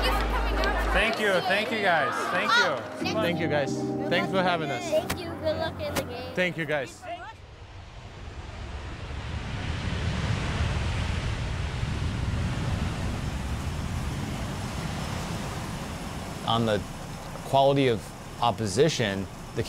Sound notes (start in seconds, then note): 8.9 jet engine rumbling